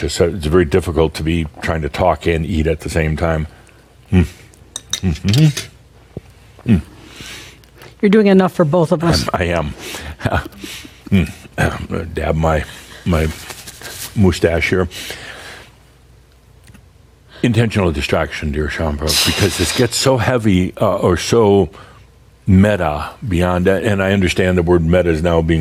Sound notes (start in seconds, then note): 10.2 softly chuckles